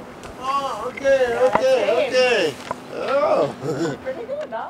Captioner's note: laughs